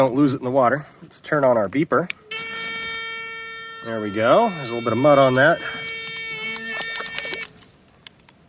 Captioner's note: long beep